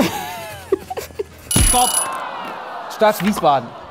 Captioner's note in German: Lachen; Alarm